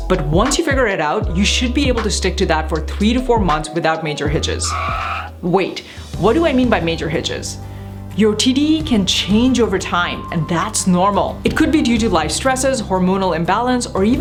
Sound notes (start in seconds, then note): 4.3 tires screeching